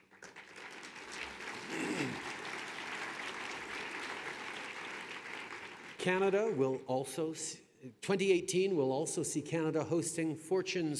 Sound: applause

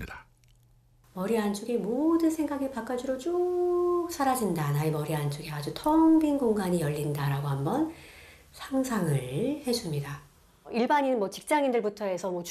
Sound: voiceover

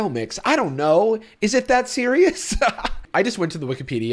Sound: laughs

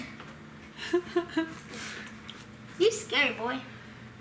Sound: laughs

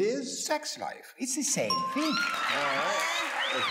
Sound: audience applause

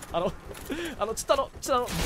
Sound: inhale

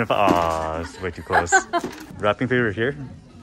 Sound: girlfriend laughs

